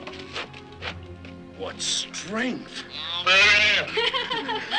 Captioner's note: bull calf moos; laughter